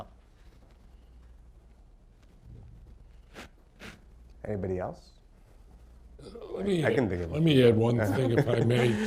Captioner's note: laughter